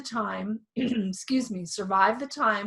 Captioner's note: clears throat